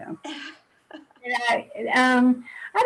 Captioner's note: laughing loudly